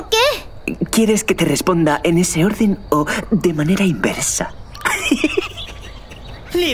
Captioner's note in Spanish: ríe